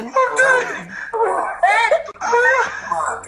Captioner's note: class laughing uncomfortably